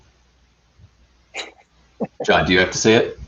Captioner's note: chuckling